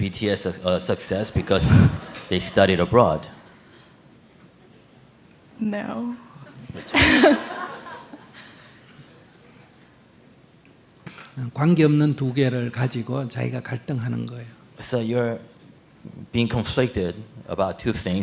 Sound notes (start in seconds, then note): 6.7 audience laugh; 6.7 questioner laughs